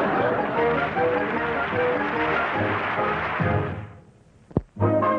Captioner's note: audience laughing; audience applauding; light orchestral music